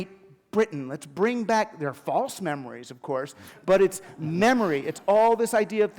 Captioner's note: laughter